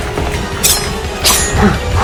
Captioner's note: knife unsheathes; knife slash